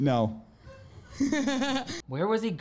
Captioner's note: laughs